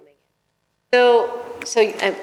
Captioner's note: microphone skips